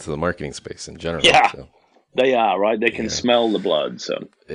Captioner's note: laughs